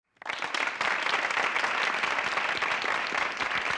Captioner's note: applause